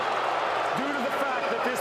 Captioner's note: booing